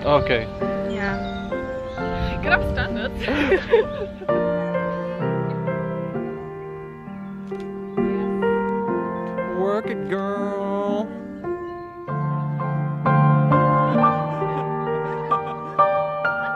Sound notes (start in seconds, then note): 3.1 all laugh; 4.0 romantic Piano Music; 4.0 soft background chatter